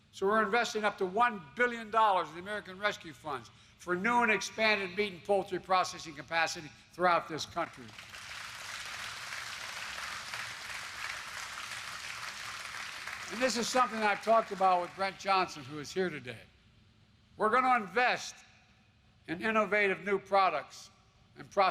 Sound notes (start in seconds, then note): 7.6 applause